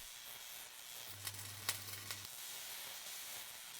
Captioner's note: welding noises